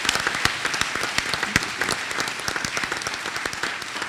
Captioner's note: applause